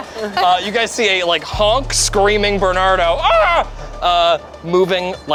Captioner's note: everyone laughs; screams